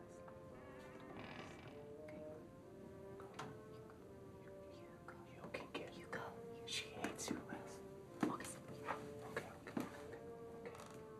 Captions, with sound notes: [whispering] You go. - You can get it. - You go. She hates you less. - August... - Okay, okay, okay, okay.